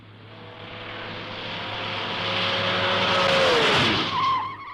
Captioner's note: engine revving; tires screeching